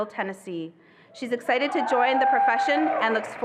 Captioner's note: attendees cheering